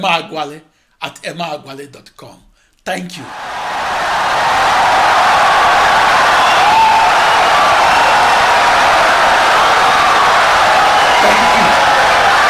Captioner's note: wild applause and cheering for 17 seconds